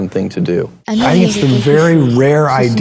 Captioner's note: whoosh